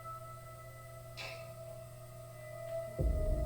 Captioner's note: eerie music; object clicks; eerie music